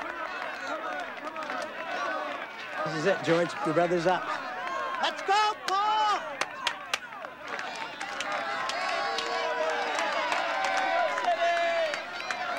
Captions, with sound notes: [cheering] You did it Paul!